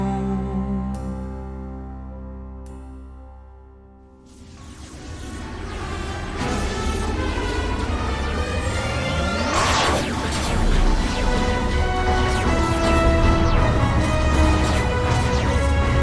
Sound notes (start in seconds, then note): 4.2 lasers charging up; 4.2 noise of battle returns